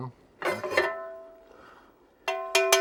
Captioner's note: pan clinking